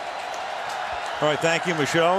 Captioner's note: cheering